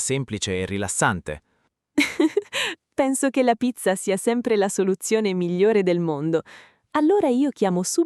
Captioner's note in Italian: risate